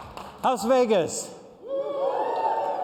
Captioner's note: cheers and applause